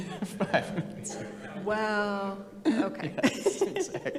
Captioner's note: laughs